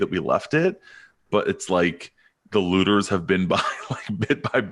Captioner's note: chuckles